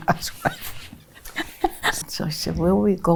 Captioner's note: laughs